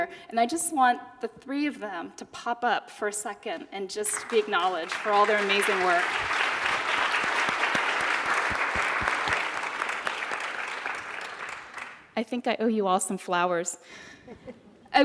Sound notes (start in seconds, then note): 6.5 applauding